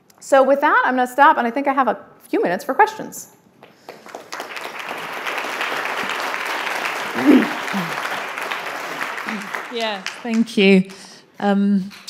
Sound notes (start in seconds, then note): 3.8 audience applauding